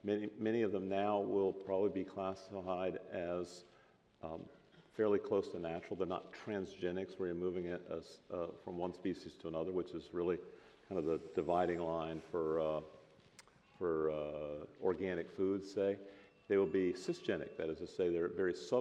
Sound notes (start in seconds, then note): none